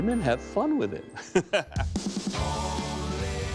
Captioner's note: laughs